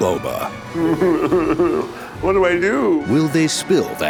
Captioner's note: whimpering